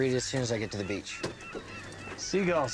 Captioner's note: seagulls mewing